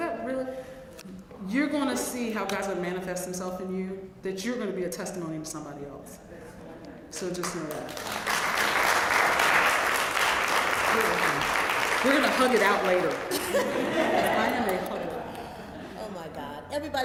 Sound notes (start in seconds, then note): 7.4 applause; 13.2 laugh